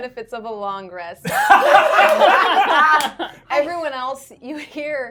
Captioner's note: everyone laughing